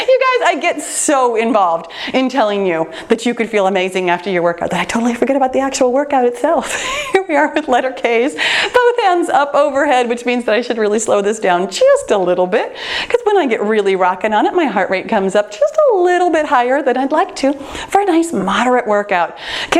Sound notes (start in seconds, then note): 6.6 laughs